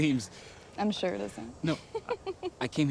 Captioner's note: laughs